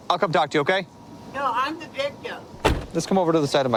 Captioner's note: car door closes